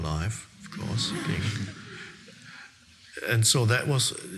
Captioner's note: audience laughing